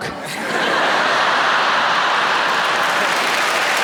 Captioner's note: audience laughing; audience clapping